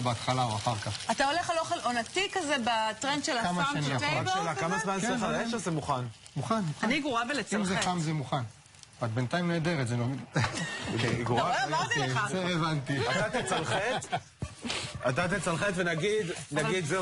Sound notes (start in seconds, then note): 10.3 צחוק